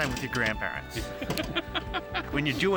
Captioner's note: woman laughs